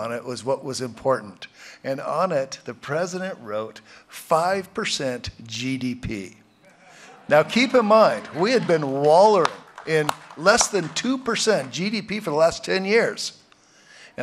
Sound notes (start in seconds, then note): 6.7 laughter